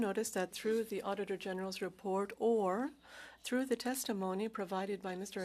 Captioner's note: speaking French